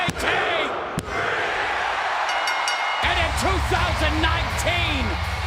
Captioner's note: bell ringing